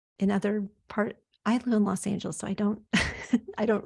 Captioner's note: chuckles